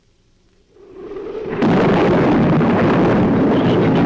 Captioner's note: thunder claps; shrews chatter